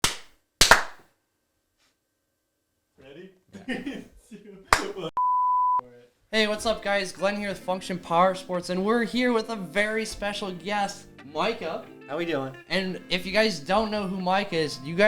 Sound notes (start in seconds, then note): 0.6 clapping; 3.5 chuckles; 5.1 audio beep